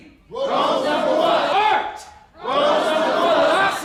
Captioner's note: crowd